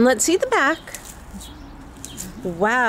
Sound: birds chirping

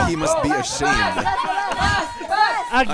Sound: laughing

